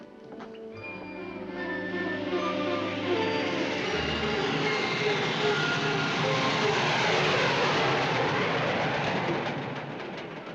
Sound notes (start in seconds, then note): 0.6 dramatic music; 3.7 train rumbling